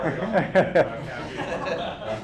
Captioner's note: laughter